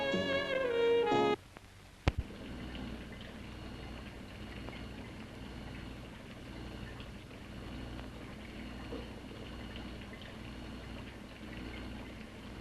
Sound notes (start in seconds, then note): 1.1 electric whirring sound; 2.2 liquids bubbling